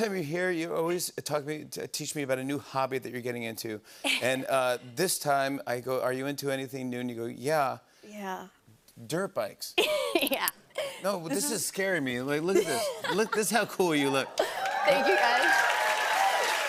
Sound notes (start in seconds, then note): 9.6 laughs; 13.9 cheers and applause